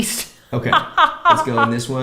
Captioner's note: laughs